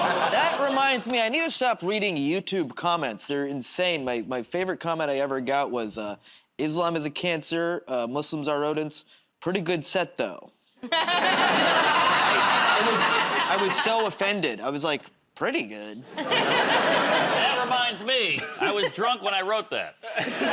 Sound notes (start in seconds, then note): 0.0 laughter; 10.8 laughter; 16.0 laughter